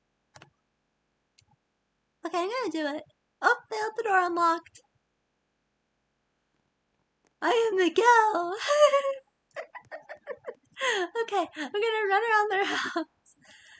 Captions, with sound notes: okay, I'm gonna do it. oh, they left the door unlocked! "I am miguel" [giggles] okay, I'm gonna run around their house... [laughs]